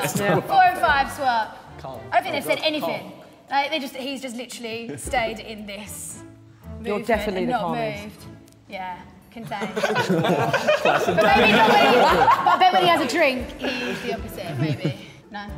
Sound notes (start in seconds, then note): 9.4 Sidemen laughing